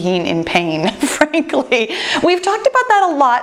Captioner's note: laughs